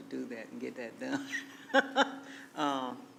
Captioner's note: laughing